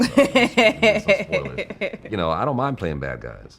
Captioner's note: laughing